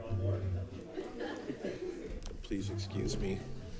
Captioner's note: and students chatter